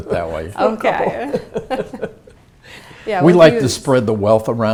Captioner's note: laugh